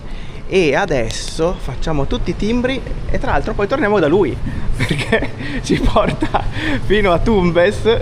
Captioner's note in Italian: risate